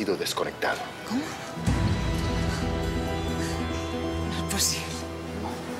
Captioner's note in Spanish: Sollozos; Sollozos